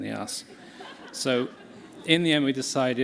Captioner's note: laughter